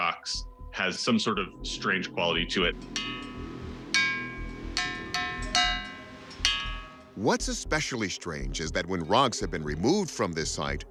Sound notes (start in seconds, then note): 3.2 metallic pinging